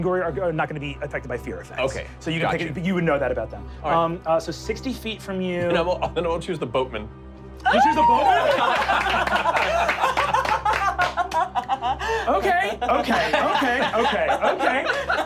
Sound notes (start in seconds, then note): 7.6 screams; 10.0 clapping